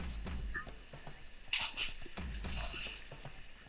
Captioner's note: leaves scrubbing